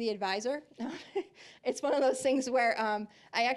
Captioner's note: chuckling